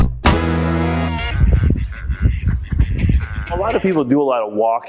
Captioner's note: ducks Quacking